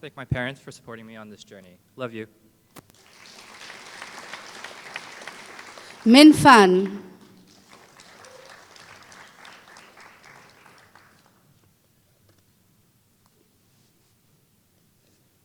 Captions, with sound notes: I wanna thank my parents for supporting me on this journey love you Minh Phan [Applause]